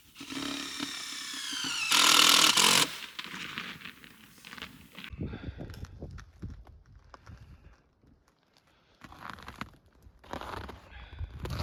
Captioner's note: scraping